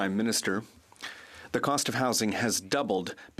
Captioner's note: speaking French